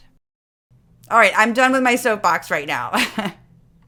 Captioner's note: laugh